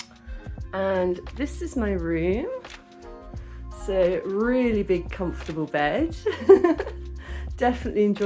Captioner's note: laughing